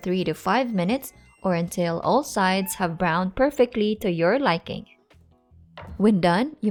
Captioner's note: Mammu meows